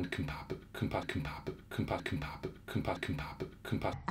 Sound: struggles pronouncing compatibility

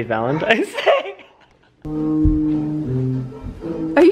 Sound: laughs

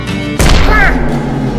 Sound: wario noise

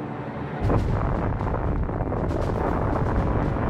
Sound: explosion

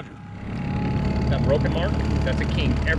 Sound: boat engine running

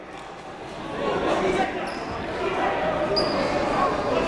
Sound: crowd talking

